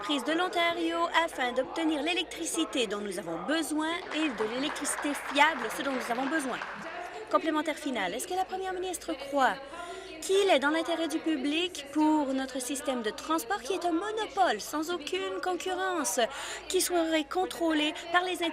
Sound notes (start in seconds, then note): 8.3 applause